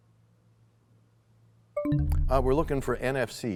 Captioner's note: bell chimes, time expires